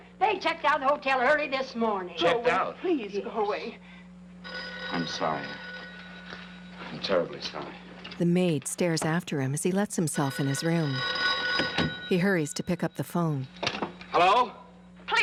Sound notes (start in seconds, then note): 4.4 telephone ringing; 10.1 phone ringing